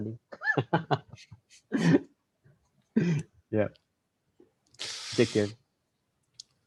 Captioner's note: laughs